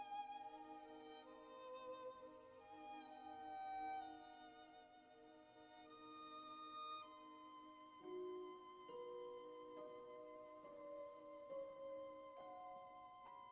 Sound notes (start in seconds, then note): none